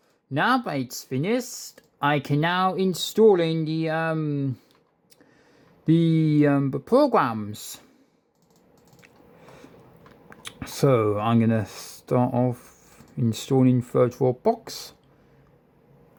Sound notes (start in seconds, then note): none